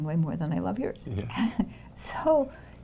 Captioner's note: chuckles